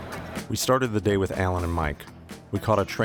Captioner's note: voiceover